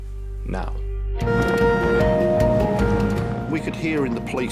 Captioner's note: alarm blaring